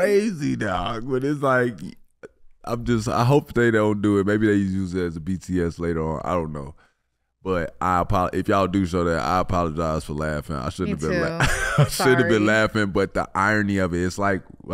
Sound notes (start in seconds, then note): 10.9 Iman laughing